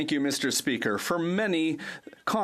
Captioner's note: speaking French